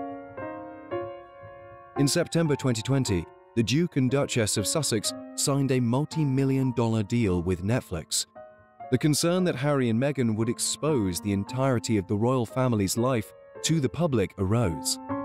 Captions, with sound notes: - [Voiceover] In September, 2020, the Duke and Duchess of Sussex signed a multimillion dollar deal with Netflix. The concern that Harry and Meghan would expose the entirety of the royal family's life to the public arose.